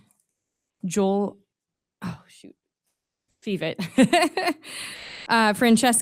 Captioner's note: laughs